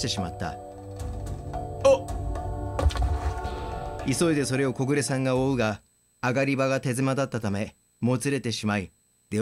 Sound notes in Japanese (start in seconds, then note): 2.7 転ぶ音：ドサッ